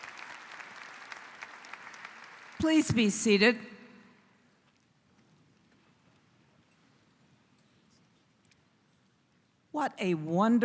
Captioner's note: �applause�